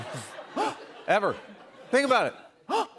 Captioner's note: laughter; gasps